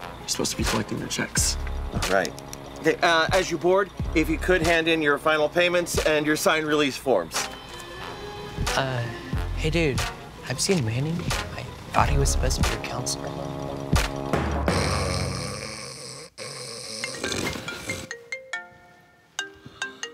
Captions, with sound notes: You're supposed to be collecting their checks. - Right. Okay, as you board, if you could hand in your final payments and your signed release forms. - Uh, hey dude, have you seen Mani? I thought he was supposed to be our counselor. (snoring) (cell phone ringing)